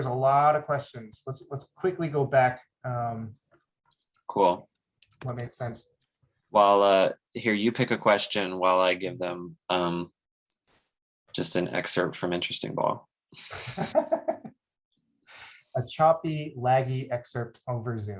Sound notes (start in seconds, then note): 13.4 laughs; 13.4 chuckles